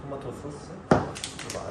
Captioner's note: Tap